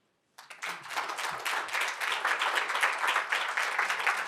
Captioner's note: applause